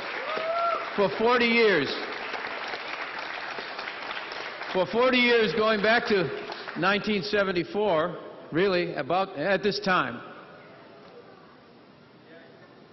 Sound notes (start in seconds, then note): 1.6 applause; 6.4 crowd cheering